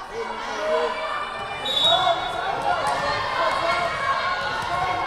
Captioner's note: whistle blowing